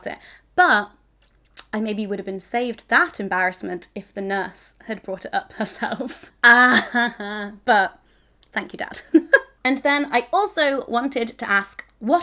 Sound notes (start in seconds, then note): 6.4 chuckling